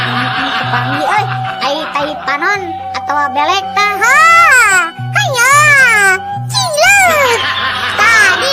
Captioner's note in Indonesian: tertawa